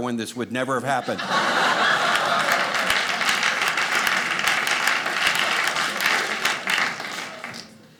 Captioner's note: audience cheering